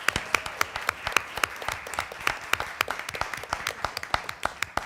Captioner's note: applause